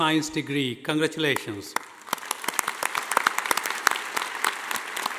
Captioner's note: audience applauding